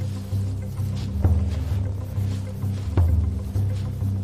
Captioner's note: grasses rustling; intense music; feet shushing